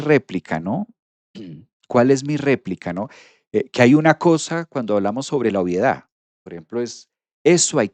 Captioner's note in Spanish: carraspeo